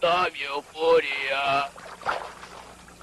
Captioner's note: water splashing